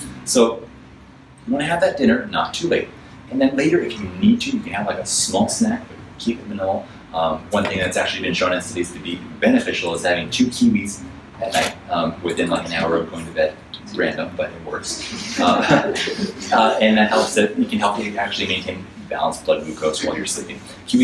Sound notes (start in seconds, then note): 15.0 audience laughs